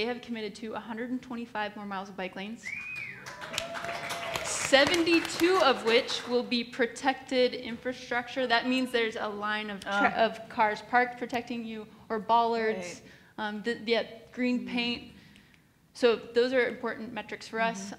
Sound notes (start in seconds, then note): 2.6 whistles and Cheers; 2.7 applauds